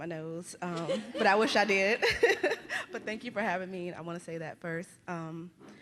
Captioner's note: laughter; laughs